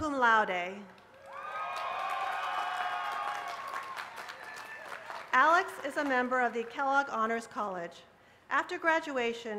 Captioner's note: cheers and applause